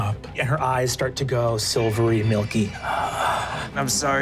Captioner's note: gasps